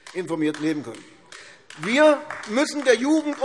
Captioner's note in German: Beifall AfD